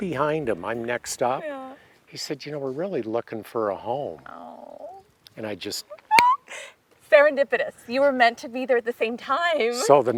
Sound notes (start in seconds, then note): 6.1 snaps fingers